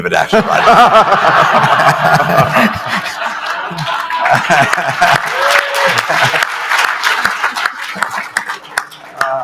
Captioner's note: laughter